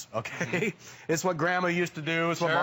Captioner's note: laughter